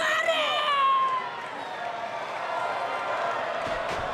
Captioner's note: Asuka yelling